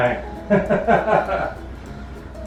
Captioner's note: laughter